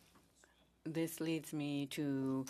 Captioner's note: speaking French